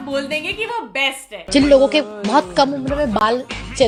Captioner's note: none